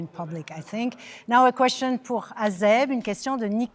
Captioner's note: speaking French